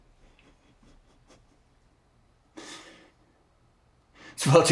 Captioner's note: man chuckling